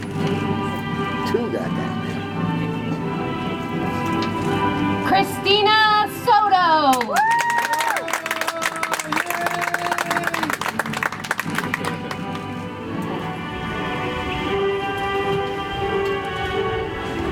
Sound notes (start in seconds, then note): 10.8 audience applauds; 14.9 soft music